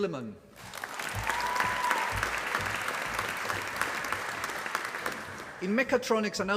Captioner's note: applause